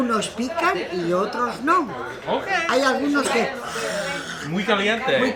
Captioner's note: speaking foreign language